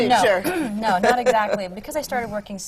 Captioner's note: laughter